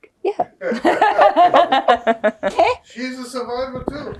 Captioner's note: laughing